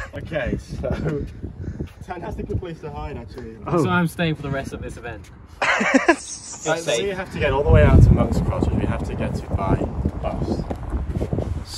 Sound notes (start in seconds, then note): 5.6 laughter